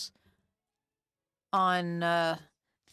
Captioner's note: speaking French